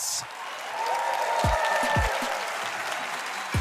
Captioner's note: cheering